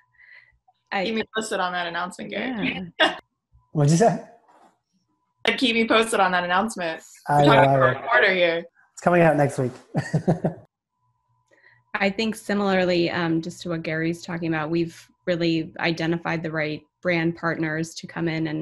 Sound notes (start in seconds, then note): 9.8 laughing